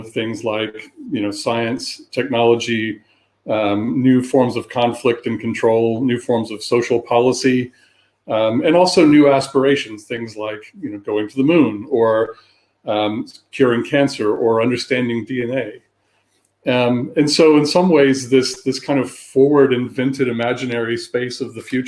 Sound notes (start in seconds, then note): 3.1 erm